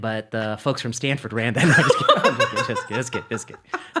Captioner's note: laughing